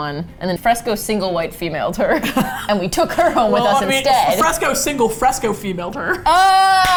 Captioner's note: both laugh; claps and laughs